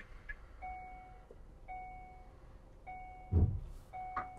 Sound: vehicle beeping

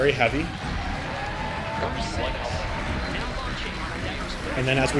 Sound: audience cheering

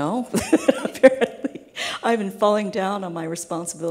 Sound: laughing

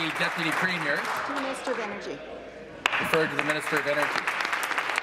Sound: applause

